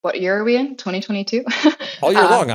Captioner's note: laugh